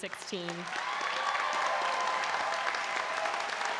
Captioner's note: applause and cheering